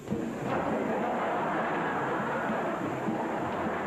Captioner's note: people laugh